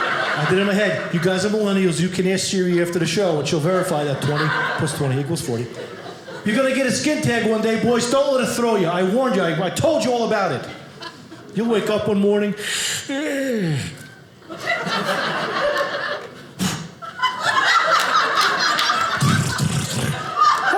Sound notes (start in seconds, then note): 13.0 yawning; 14.4 audience laughing